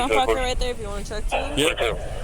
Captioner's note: radio chatter